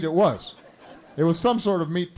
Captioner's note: laughter